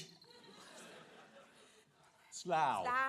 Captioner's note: audience chuckling